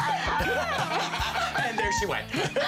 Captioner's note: laughter